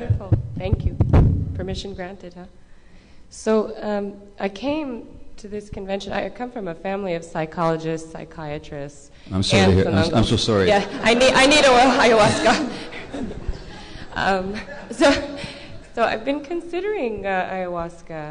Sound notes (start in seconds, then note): 10.7 laughter